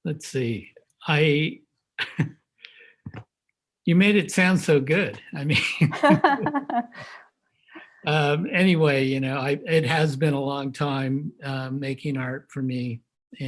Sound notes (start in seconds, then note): 2.0 laughs; 5.5 laughs